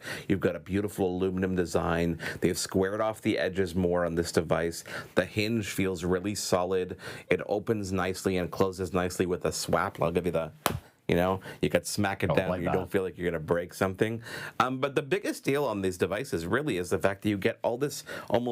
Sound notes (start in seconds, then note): 10.6 phone smacks